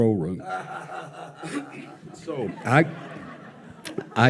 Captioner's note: laughs